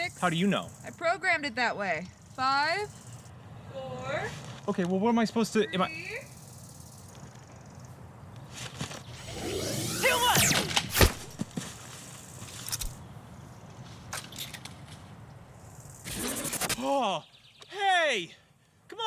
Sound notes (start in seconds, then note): 9.1 gun charging; 9.2 laser gunshot; 16.0 digital zapping; 17.1 gasp